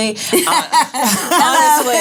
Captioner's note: laughing